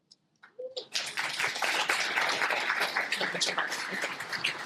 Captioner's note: applause